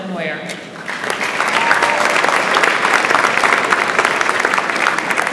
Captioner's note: audience applauds